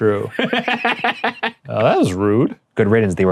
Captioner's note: laughing